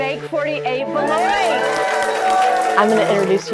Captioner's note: crowd cheering